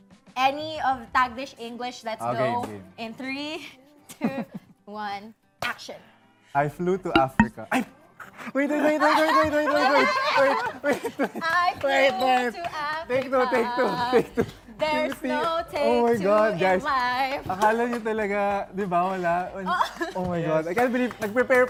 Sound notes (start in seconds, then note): 10.3 laughs; 11.6 singsong